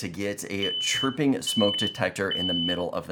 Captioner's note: smoke alarm beeping